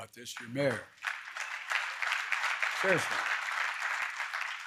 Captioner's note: applause